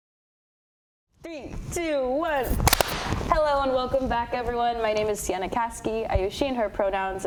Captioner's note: clap